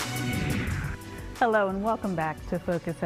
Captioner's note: transition whooshing